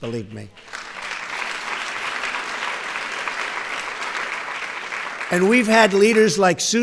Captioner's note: applause